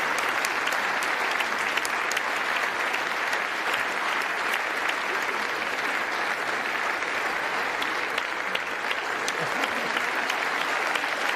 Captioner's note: applause